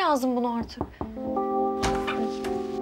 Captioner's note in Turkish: Kapı vuruluyor